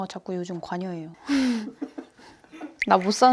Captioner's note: awkward laugh